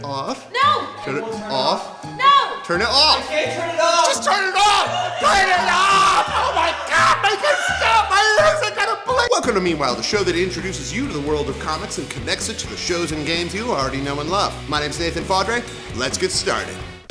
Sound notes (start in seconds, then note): 4.3 screams